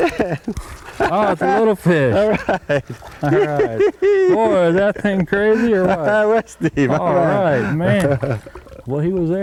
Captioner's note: laughter